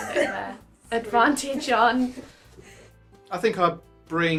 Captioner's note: laughing